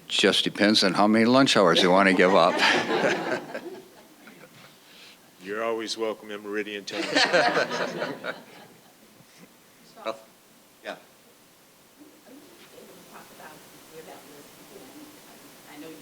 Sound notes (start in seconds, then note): 1.6 audience laughing; 6.9 audience laughing